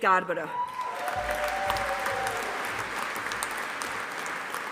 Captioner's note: audience applauding